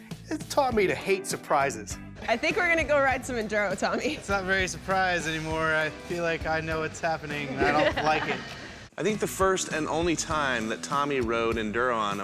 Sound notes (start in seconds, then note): 7.4 laughter